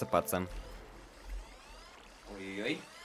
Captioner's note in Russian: будильник звенит